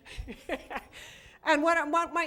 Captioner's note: laughter